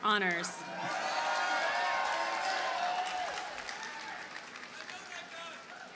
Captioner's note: audience cheers and applauds